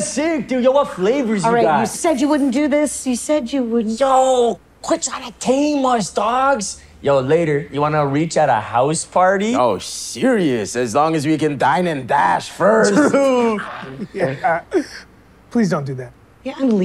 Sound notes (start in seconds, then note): 12.8 laughing